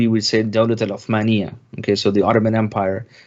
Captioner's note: speaking in Arab